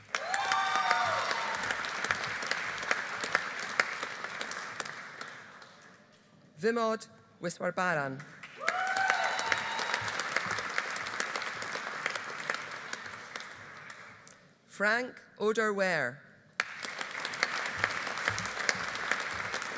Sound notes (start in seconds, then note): 0.0 audience applauding; 0.0 audience cheering; 8.4 audience applauding; 8.6 audience cheering; 16.6 audience applauding